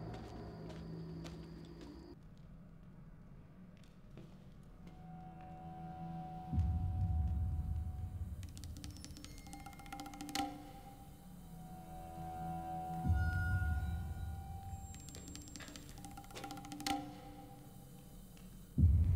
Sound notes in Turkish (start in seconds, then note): 1.4 Sessizlik; 6.5 Müzik - Gerilim